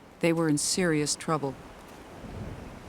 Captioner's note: water whooshing